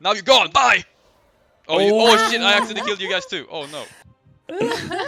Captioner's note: haha